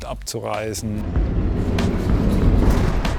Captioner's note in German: Dröhnen